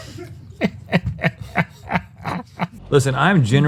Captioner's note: laughs at his own joke